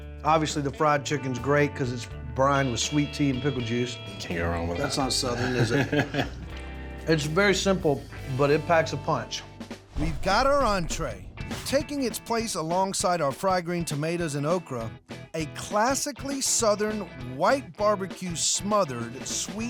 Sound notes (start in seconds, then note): 5.3 laughing